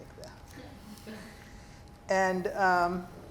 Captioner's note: students laugh